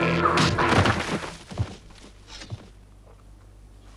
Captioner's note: boulder slams